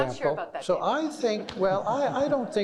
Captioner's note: all laughing